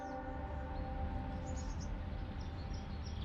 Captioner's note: birds chirping